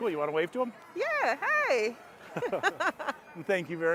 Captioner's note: both laughing